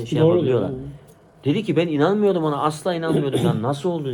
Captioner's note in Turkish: boğazını temizler